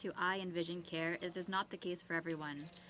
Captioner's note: speaking French